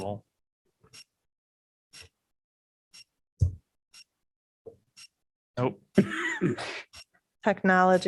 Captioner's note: laughter